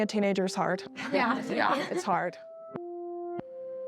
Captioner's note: team chuckles